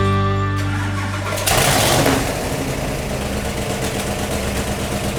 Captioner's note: engine rumbling